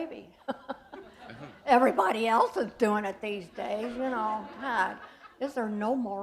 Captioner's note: chuckle